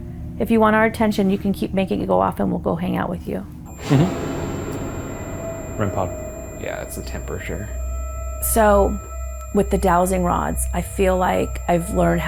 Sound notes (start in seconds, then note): 4.0 device beeping; 4.0 dramatic music